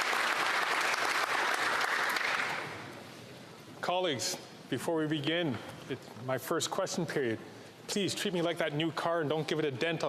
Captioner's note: applause